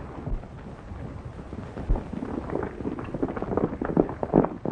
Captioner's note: horses galloping